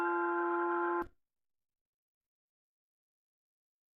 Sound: silence

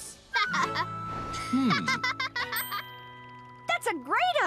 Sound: giggles

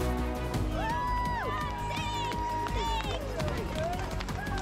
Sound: spectators cheering

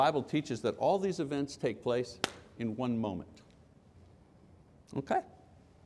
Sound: hands clapping

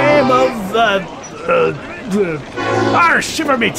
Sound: forgetful pirate noises

